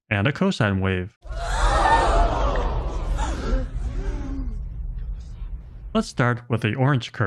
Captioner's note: crowd gasping